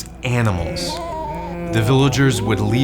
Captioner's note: sheep bleating